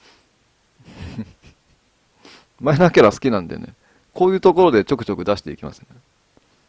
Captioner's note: laughs